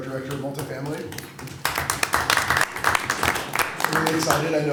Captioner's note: applause